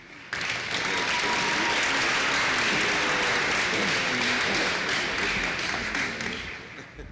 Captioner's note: applause